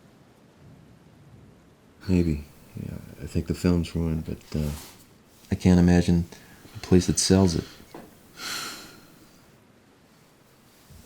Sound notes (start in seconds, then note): 8.3 sighs